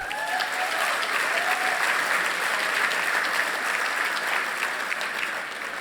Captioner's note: applause